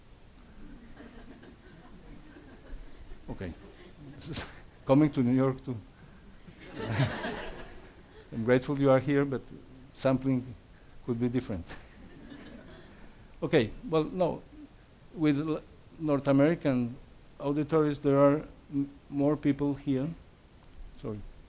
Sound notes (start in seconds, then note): 0.6 audience laughs; 3.8 laughs; 6.5 audience laughs; 6.5 laughs; 11.8 audience laughs